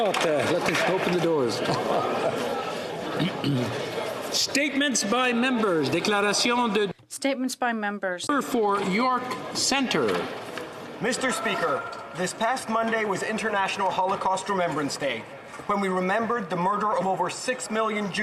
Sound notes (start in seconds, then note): 0.5 applause; 6.2 speaking French